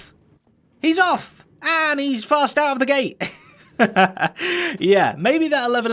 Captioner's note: chuckles